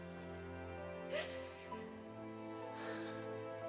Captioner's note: crying